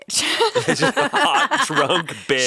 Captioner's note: everyone laughing